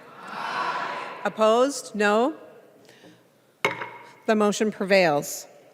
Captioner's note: chorus of ayes